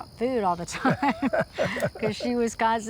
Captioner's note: laughs